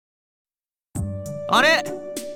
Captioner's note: silence